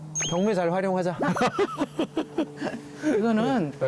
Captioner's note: hehehe